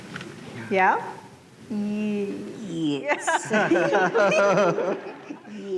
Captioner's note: laughter